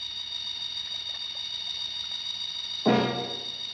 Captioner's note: acid bubbling